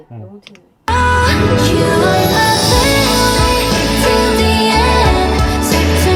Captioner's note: after adjusting the hissing sound